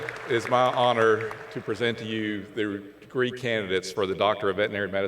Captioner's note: cheers and Applause